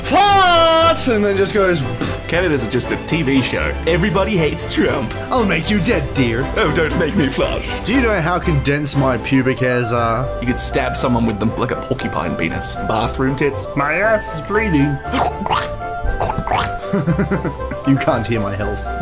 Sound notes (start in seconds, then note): 1.9 pff; 16.1 various squelching noises; 16.1 laughs